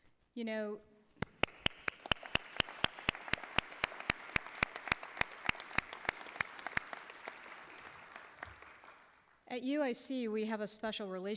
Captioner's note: applause